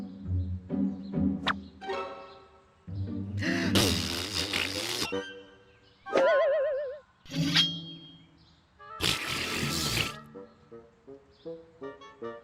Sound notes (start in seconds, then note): 3.4 blows raspberry; 9.0 blows raspberry